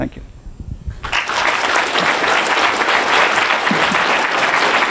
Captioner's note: applause